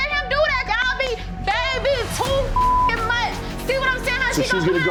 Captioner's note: beep